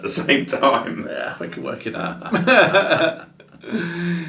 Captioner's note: laughs